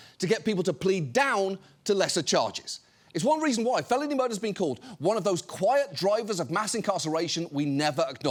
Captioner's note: none